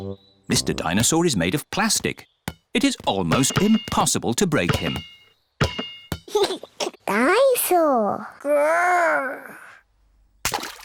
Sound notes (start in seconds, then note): 6.3 giggles